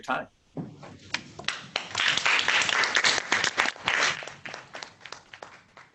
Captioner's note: applauding